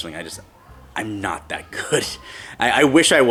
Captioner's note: chuckles